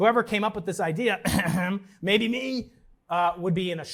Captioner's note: clears throat suggestively